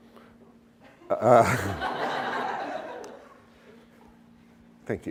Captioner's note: laughter